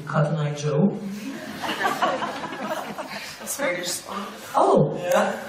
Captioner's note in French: rires